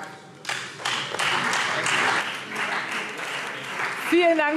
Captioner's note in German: Beifall Freie Demokraten und SPD